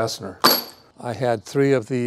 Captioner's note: metal clanging